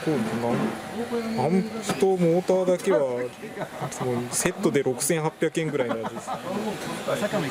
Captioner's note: laughs